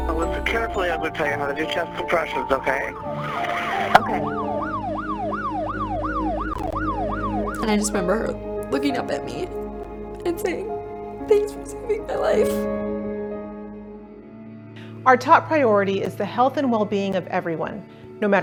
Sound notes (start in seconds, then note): 4.6 ambulance siren wailing